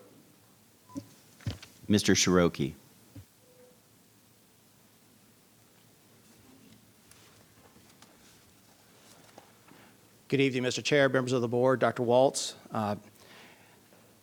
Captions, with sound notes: - Mr. Cheroke. (microphone being bumped) - Mr. Cheroke. (paper rustling) - Good evening Mr. Chair, members of the board, Dr. Walts.